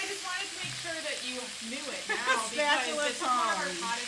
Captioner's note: laughs